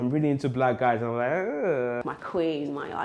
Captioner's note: winces